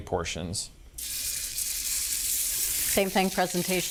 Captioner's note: skillet sizzling